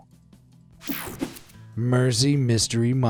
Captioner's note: screen buzzes and whooshes